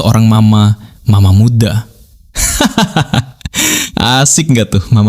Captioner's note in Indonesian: tertawa